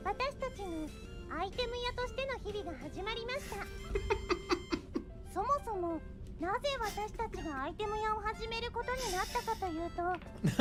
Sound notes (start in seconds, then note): 3.5 bursts out laughing; 6.7 giggling